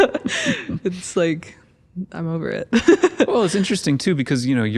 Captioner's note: laughs; laughs